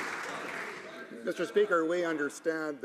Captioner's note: some Applause